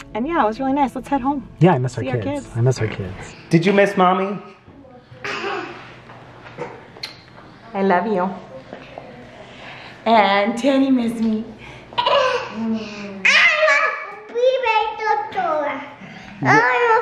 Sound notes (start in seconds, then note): 5.3 chuckles; 7.0 kisses; 12.0 giggles; 16.4 babbles